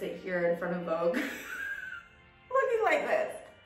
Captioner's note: laughing